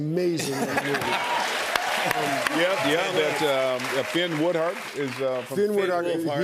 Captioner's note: cheers and applause